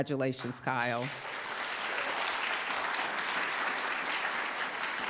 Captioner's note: audience applauds